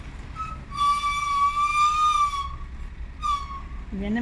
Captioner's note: brakes squeak